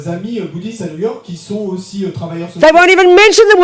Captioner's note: speaking in French